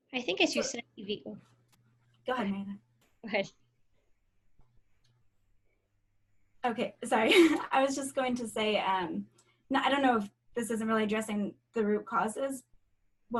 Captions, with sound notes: - I think as you said, Evey... Go ahead Lori, - Okay, sorry. (chuckling) I was just going to say, I don't know if this isn't really addressing the root causes?